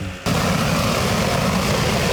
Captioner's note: whirring sounds